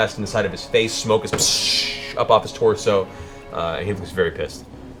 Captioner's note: sizzle